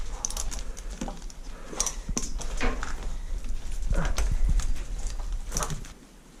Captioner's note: ratcheting; grunting